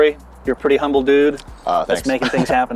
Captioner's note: chuckling